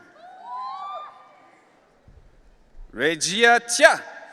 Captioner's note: audience cheering